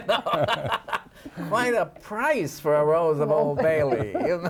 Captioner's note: laughs